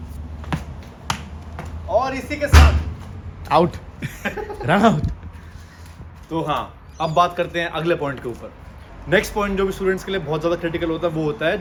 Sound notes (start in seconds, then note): 0.4 ball bounces; 2.5 ball hits metal fence; 4.0 laughter